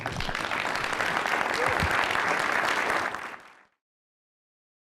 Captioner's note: applause